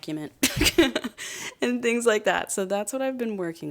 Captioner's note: laughs